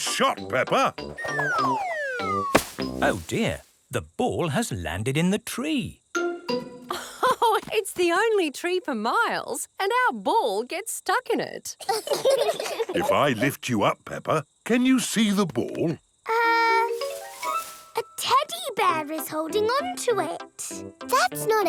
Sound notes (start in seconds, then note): 7.4 laughs; 11.8 children laugh